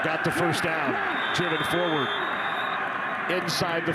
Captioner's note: referee blows whistle